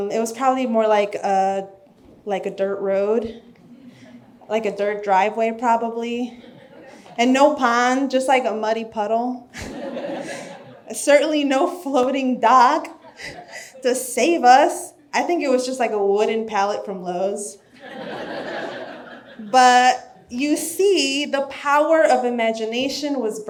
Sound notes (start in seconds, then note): 9.6 audience laughs; 17.7 audience laughs